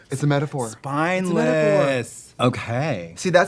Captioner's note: gasps